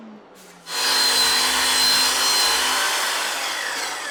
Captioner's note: saw whirring